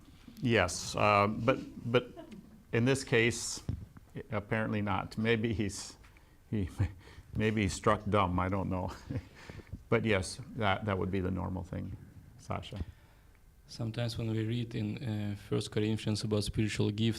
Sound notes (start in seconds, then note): 5.7 laughs